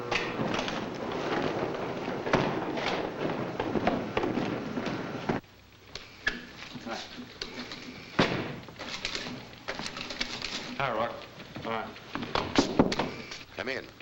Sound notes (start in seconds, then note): 8.2 door bangs shut; 12.8 knocking on door